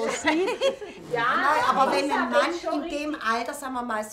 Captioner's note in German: Lachen